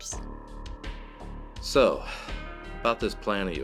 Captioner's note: sigh